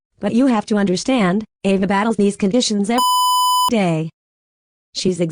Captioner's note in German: Piep